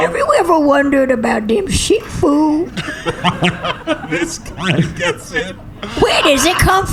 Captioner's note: laughing